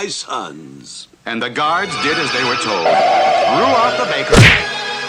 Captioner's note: smack!